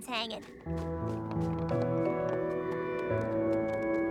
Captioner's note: none